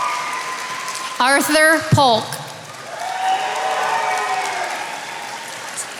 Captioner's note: attendees applauding